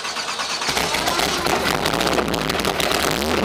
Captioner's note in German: Dröhnender Motor